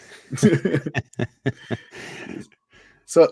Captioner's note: laughter